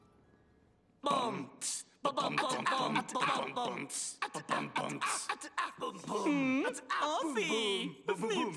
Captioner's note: beat-boxing